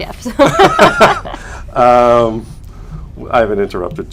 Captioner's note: laughter